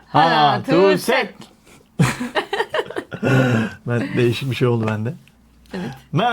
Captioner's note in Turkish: kahkaha